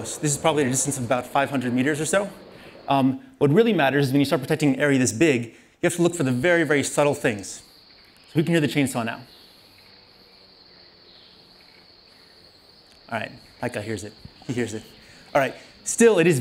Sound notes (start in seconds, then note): 8.0 rainforest sounds